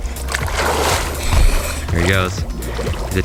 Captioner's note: water splashing